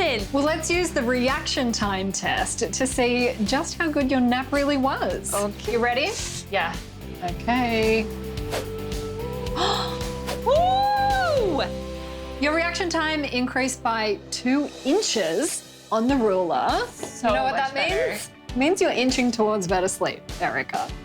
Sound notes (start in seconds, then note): 9.4 gasping